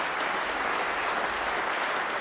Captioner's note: applause